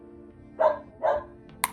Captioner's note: dog barking